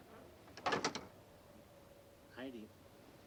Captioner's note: door clicking